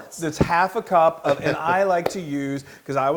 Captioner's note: laugh